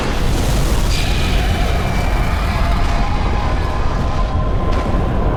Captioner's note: radio; explosion; Scarab shrieks